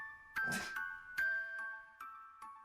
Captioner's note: scoffs